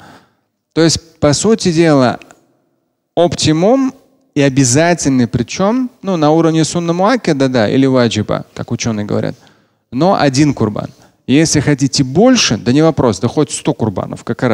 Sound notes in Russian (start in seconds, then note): 6.7 говорит на арабском